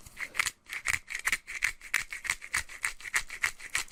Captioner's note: grates pepper